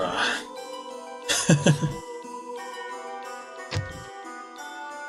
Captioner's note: laughs